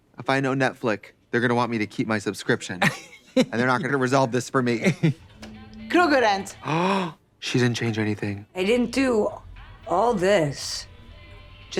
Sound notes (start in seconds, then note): 6.6 gasps